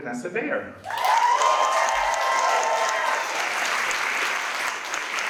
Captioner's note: audience cheers and applauds